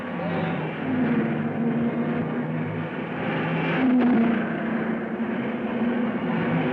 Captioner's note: cars revving; dramatic music